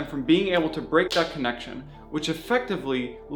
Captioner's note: tapping